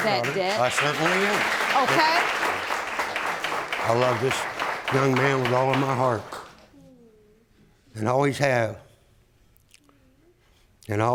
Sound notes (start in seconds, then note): 1.8 audience applauding